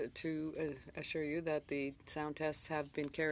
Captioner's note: speaking French